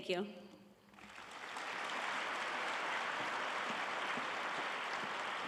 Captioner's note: audience applauding